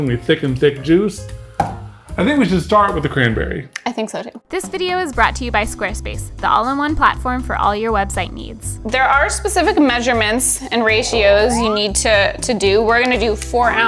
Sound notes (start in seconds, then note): 1.6 container thudding; 11.4 graphics swooping; 13.2 graphics clicking